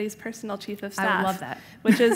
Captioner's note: laughs